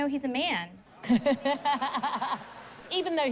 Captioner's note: laughter